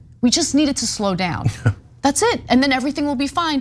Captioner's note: laugh